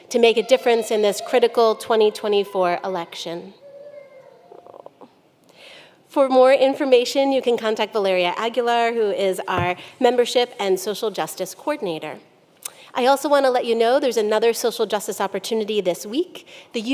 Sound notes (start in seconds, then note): 3.6 child cries